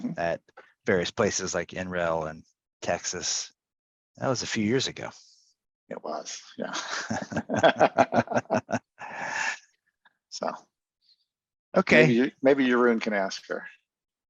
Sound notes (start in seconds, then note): 6.7 laughter